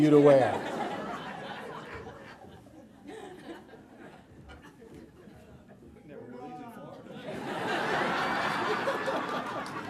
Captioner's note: noises and laughter